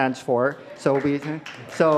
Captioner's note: crowd applauds